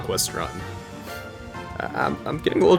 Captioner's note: sniffle